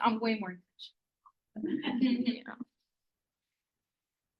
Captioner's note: laughter